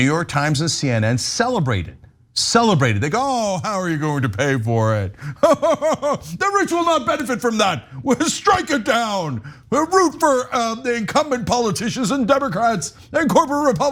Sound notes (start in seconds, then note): 5.2 laugh